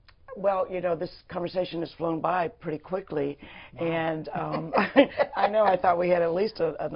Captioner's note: laughter